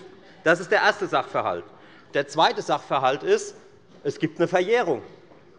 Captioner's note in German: none